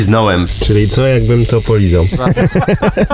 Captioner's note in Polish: śmiech